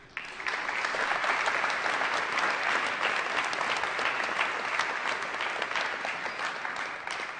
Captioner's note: applause